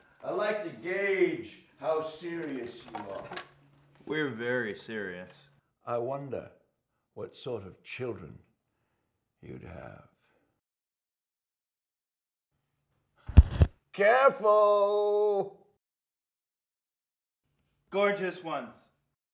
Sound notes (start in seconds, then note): 13.3 record skipping